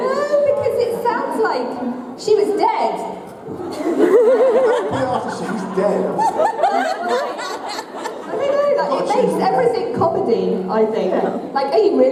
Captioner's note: laughter